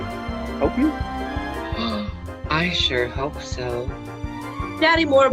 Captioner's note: gasps